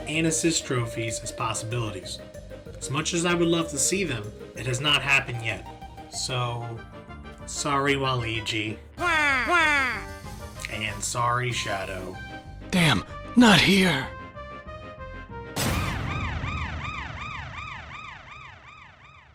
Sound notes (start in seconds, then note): 9.0 crying; 16.3 siren rings